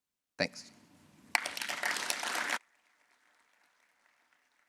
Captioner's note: applause